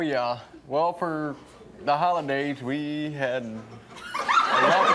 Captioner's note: audience laughs